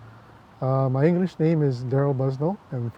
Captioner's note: speaking in English